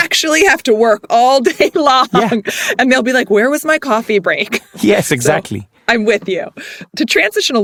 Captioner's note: laugh